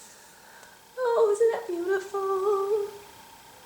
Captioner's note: sing-song voice